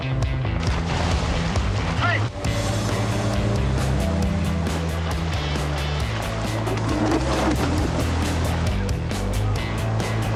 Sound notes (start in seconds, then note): 2.4 engine revving; 5.7 upbeat rock music